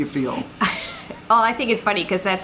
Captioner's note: laughing